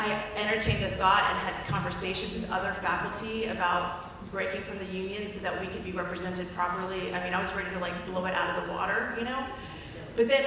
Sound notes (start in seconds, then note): none